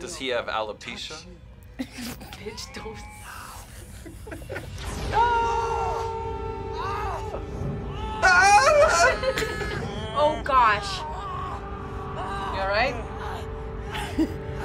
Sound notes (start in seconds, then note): 3.4 both laugh; 7.8 screams; 8.6 laughs